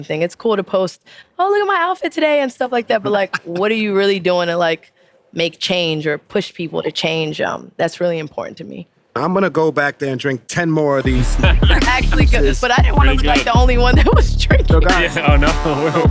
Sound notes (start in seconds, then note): 3.0 person laughing; 11.0 upbeat music; 14.8 chuckles